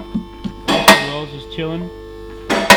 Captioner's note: car lifter clicks; car lifter clicks